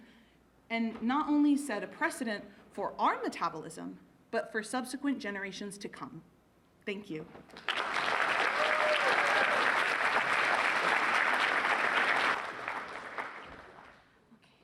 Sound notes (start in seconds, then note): 10.9 applause